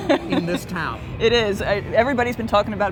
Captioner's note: laughs